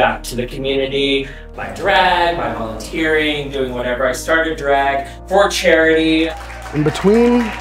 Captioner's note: clapping